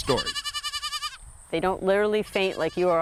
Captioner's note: goat bleats